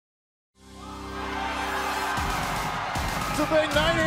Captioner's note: crowd cheering